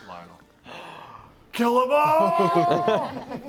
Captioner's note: gasps